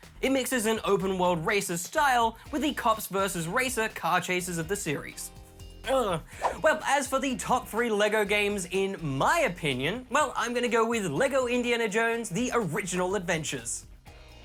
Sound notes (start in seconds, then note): 5.4 groans